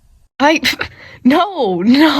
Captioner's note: scoffs